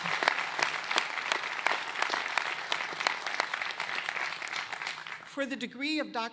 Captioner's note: applause